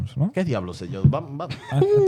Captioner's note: speaking In Foreign Language